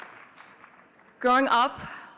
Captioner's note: audience cheering and clapping